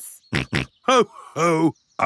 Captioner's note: snorts